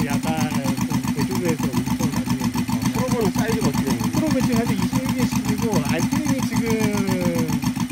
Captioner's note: Propeller